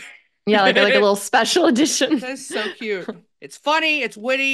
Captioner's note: laughs; chuckles